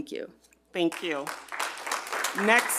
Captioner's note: attendees clap